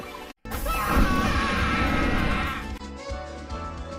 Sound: screaming; 80s music playing

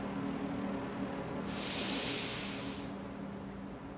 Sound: inhales

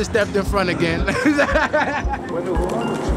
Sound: laughs

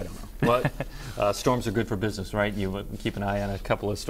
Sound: laughter

